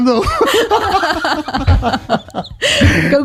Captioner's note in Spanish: Risas